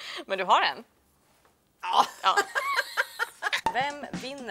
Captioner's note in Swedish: skratt